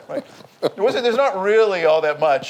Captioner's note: laughs